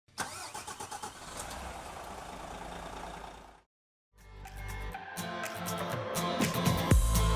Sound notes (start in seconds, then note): 0.1 engine starting; 4.2 upbeat music